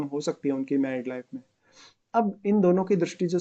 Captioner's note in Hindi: नाक से की जाने वाली आवाज़